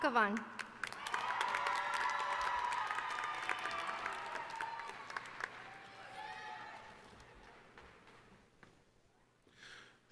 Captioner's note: applause